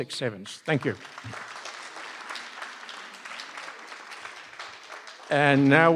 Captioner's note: applause